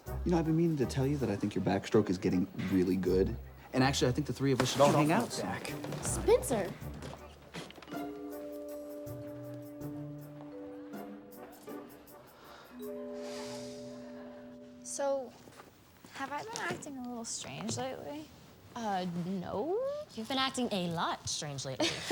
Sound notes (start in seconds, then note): 7.8 curious orchestral music; 12.7 Billy sighs